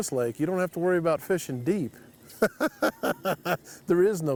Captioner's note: chuckles